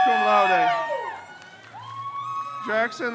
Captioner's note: crowd cheers